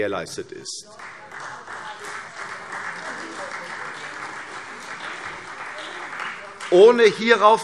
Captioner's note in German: Beifall CDU und Freie Demokraten